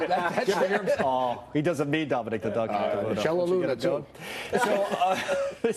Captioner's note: laughter